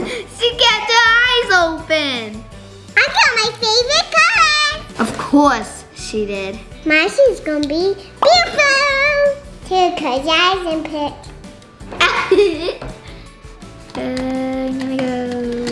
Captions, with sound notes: - She kept her eyes open. - I got my favorite colors. - Of course she did. - My shoes gon' be beautiful. Taylor close your eyes and pick. (laughter) - One, two...